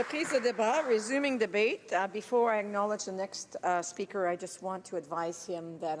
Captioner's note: some Applause